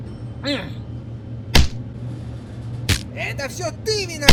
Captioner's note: blows